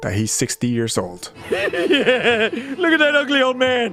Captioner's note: laughing